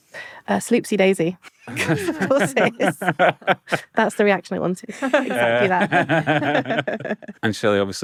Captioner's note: chortles